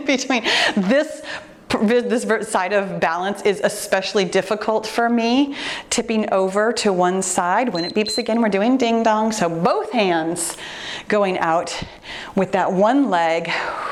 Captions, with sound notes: between this, this side of balance is especially difficult for me tipping over to one side. (timer beeps) When it beeps again, we're doing ding-dong. So both hands going out with that one leg,